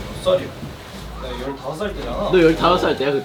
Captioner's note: BuZz